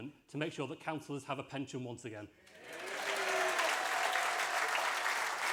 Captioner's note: applause